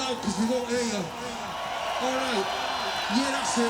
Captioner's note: cheering